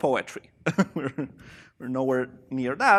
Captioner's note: chuckling